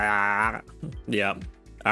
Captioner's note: groans